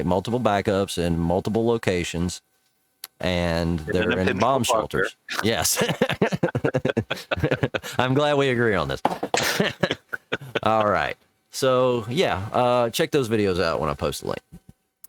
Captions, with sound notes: multiple backups in multiple locations, and they're in mom shelters. - In a picture parker. - Yes. (laughs) I'm glad we agree on this. (laughs) All right, so yeah, check those videos out when I post a link.